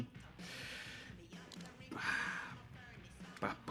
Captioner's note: sighs